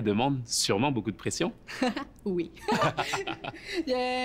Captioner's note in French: rires